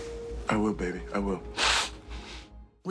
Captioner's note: sniffles